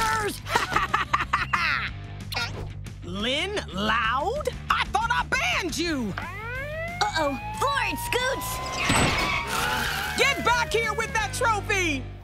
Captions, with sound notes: [laughing] Lynn Loud?! I thought I banned you! Uh oh. Floor it, Scoots! [siren blaring] Get back here with that trophy!